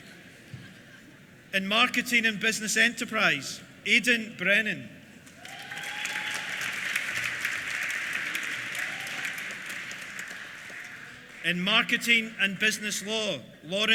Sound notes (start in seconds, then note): 5.2 applause; 5.3 cheers